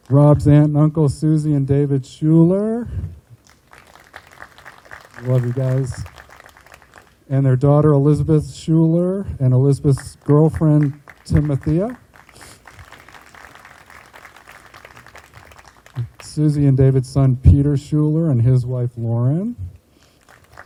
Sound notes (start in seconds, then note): 3.3 group applauding; 12.6 group applauding